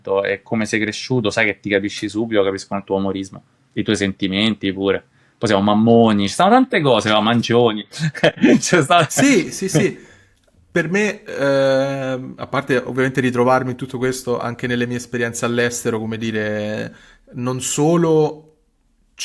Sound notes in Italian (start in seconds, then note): 7.9 risate